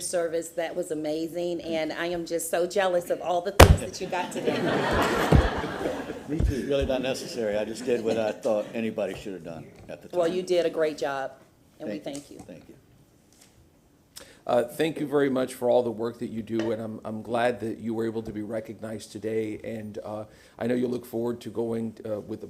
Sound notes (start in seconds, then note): 7.0 laughter